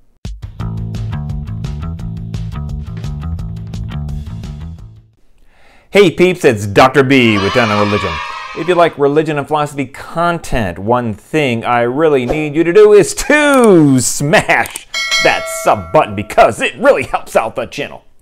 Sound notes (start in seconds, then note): 7.2 kids cheering; 14.9 bell ringing